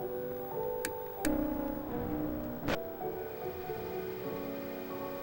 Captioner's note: gentle melancholy music; recorder rattling; recorder buzzing; recorder fizzling